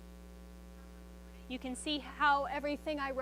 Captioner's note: tablet feedback